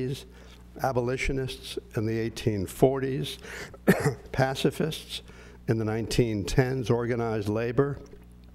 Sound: cough

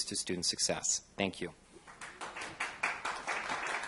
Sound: applause

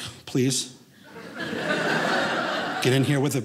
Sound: audience laughing

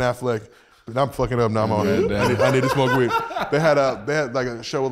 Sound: laughs over speaker

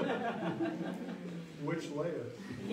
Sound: laughs

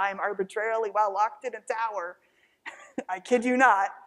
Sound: chuckles

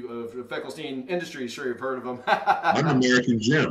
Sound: laughs

